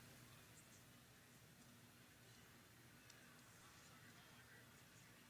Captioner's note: faint chatter